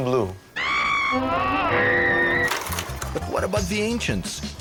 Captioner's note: various screaming